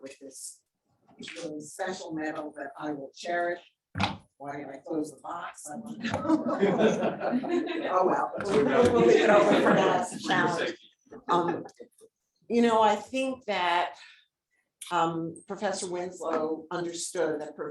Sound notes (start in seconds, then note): 6.0 audience laughing